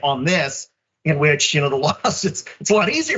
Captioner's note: laugh